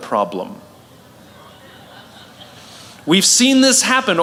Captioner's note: La audiencia se ríe